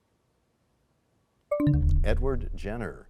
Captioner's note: bell chimes, time expires